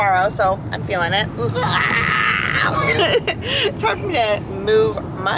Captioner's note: groans